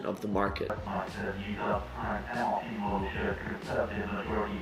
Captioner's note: computer mumbling